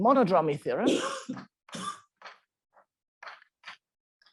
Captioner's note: coughing